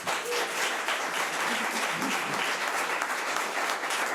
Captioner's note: audience applause